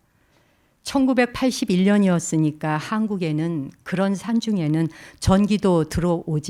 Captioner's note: speaking in Korean